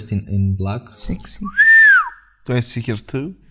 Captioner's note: whistles